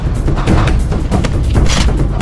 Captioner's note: fighting sounds